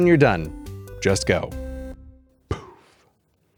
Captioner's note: poof